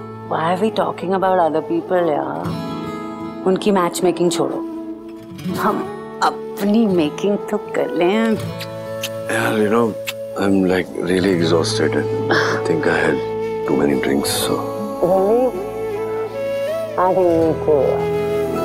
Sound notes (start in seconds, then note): 8.3 kisses; 12.2 sighs